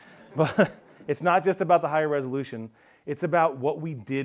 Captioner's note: chuckles